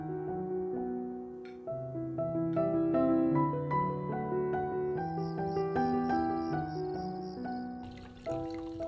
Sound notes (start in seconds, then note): 5.0 crickets chirping